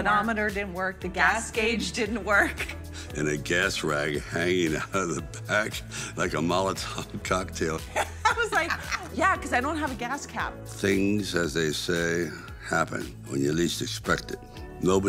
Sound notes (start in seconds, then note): 7.8 laughing